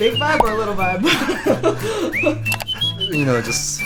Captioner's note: laughing